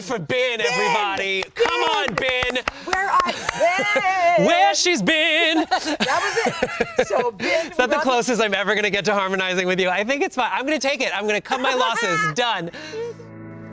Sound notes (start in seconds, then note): 5.2 laughing; 12.9 tender music